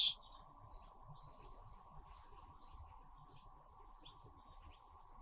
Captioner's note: birds chirping